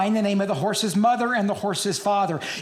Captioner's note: none